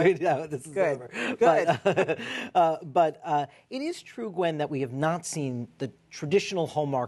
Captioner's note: laughter